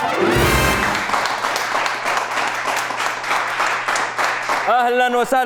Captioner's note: clapping